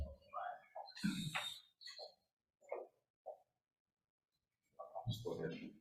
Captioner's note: group chattering indistinctly